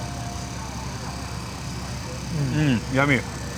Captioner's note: engine roaring